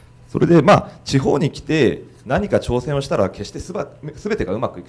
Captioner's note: speaking foreign language